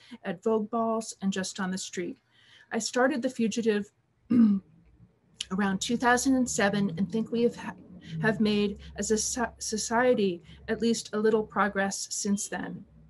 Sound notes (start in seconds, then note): 4.3 clears throat